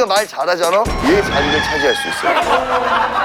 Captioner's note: cluck, cluck